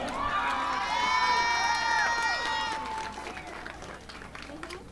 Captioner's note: audience applauding